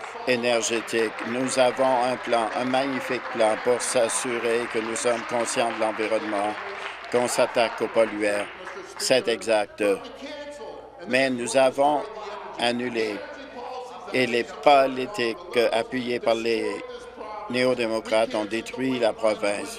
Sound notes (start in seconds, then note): 9.7 applause